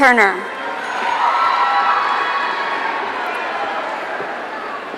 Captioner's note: audience cheering